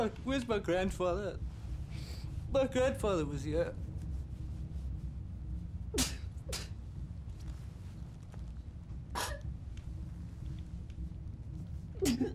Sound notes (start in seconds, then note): 5.8 Gerrit sobbing